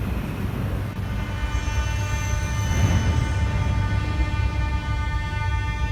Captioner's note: opening doors of the arriving train